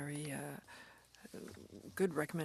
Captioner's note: speaking French